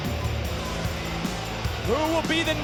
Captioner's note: audience jeering